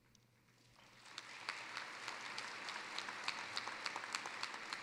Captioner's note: applause